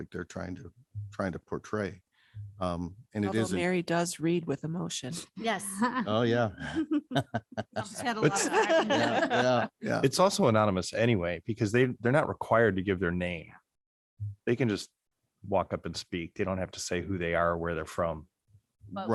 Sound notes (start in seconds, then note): 6.0 members laughing